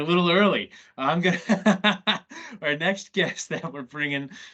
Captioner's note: laughs